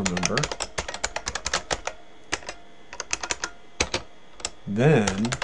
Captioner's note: typing